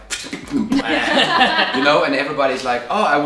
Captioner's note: laughing